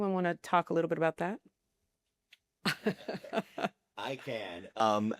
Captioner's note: laughter